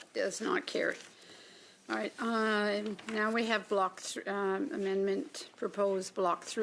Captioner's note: speaking French